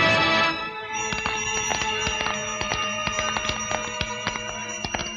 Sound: bells, Footsteps

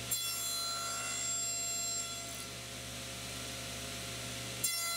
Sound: saw whirring

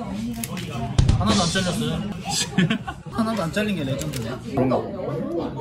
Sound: laughing

